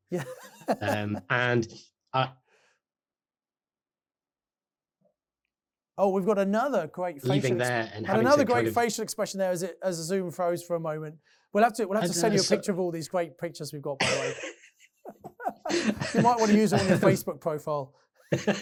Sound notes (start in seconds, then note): 0.1 laughing; 14.0 laughing; 18.3 laughing